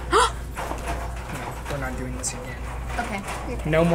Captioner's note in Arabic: تلهث